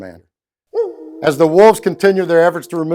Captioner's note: wolf howling